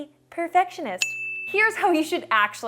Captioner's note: pinging